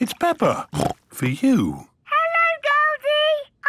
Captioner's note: snorts